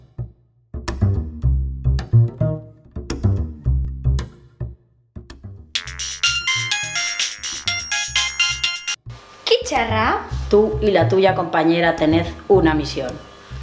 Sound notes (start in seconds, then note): 5.7 mobile phone rings